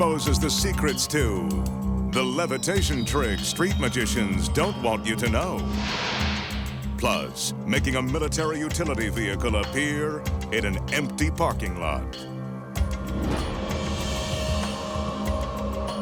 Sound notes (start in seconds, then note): 5.6 light beam swishing; 12.2 mystical instrumental music continues; 15.8 logo swishing